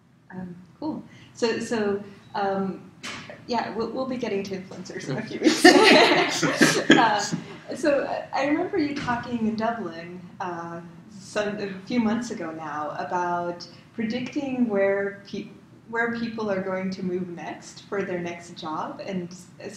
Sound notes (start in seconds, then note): 5.0 laugh